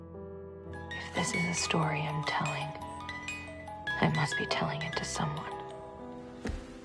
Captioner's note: voiceover